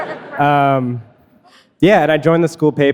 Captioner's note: audience laughing